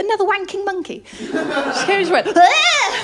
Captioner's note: laughter